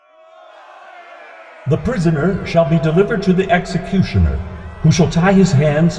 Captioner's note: angry Crowd